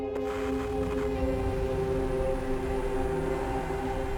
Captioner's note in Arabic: طنين ثابت